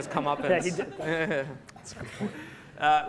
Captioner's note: laughing